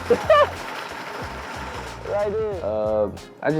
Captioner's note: laughs